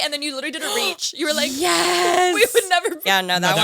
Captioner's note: gasps